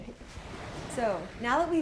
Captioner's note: water splashes